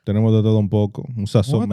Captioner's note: speaking In Foreign Language